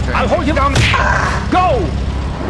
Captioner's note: parrot squawk